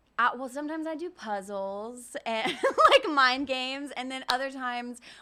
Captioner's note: giggles